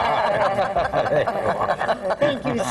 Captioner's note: laughter